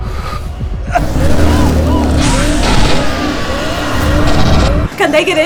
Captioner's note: Ryder grunts in pain; sounds of sirens, gunfire, and screams